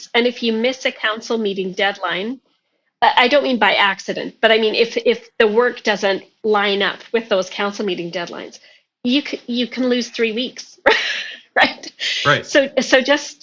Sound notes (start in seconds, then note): 12.2 laughing